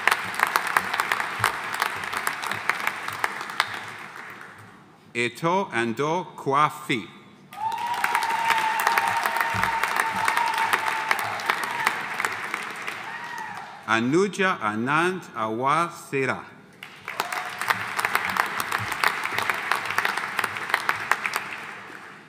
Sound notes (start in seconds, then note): 0.0 audience applauding; 7.5 audience applauding; 7.5 audience cheering; 16.8 audience applauding; 17.1 audience cheering